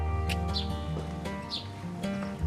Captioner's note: lips click